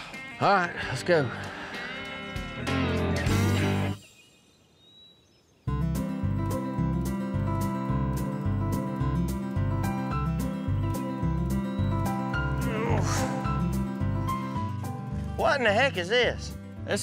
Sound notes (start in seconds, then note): 12.5 groans